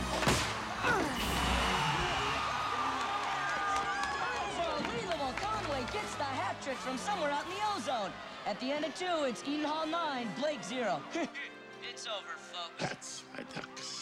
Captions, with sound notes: [ Grunts ] -[ Whistle Blows, Crowd Cheers ] -COME ON, CHARLIE ! UNBELIEVABLE ! CONWAY GETS THE HAT TRICK FROM SOMEWHERE OUT IN THE OZONE ! AT THE END OF TWO, IT'S EDEN HALL NINE, BLAKE ZERO. [ Chuckles ] IT'S OVER, FOLKS. THAT'S MY DUCKS.